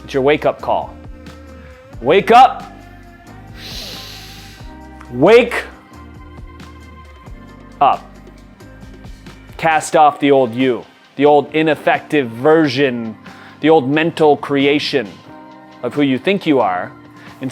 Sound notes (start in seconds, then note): 2.7 uplifting music; 3.4 inhales sharply